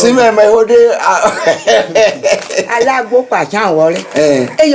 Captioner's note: laughs